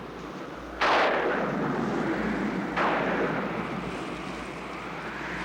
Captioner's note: wind howling; thunder crashing